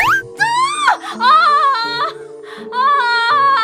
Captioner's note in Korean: 흐느낌